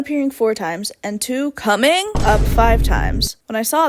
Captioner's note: boom